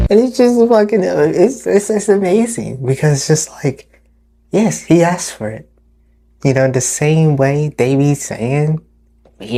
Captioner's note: none